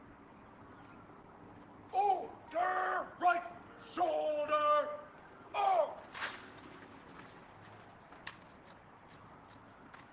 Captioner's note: military drill commands